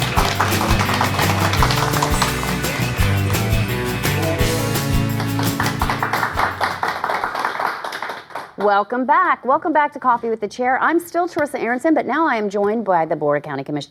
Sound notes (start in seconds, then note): 1.7 applause; 5.5 applause